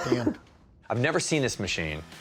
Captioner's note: chuckles